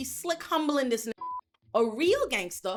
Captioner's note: beep